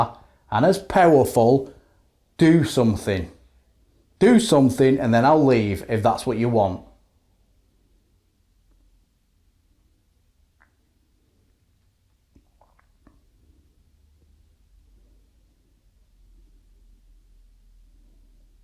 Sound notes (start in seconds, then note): 6.8 silence